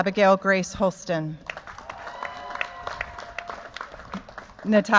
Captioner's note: cheers, applause